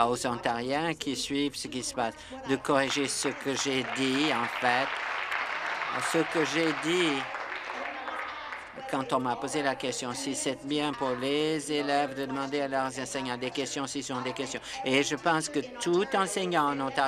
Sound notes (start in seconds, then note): 8.8 applause